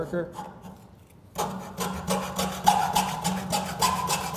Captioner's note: saw scraping